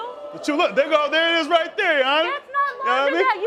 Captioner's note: crowd groaning